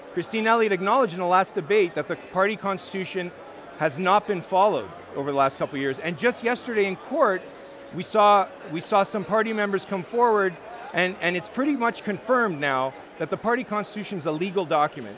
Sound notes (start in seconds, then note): none